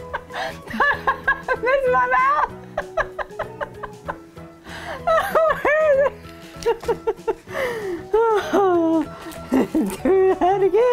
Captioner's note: laughing; laughing